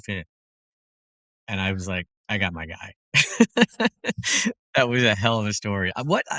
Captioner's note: laugh